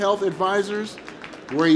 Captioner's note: applause